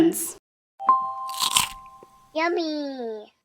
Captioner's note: crunching